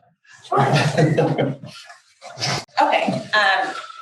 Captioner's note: panel laughs